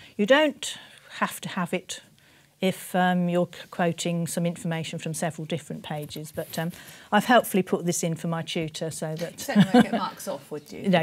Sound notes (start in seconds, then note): 9.5 laughs